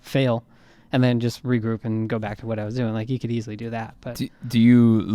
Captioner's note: none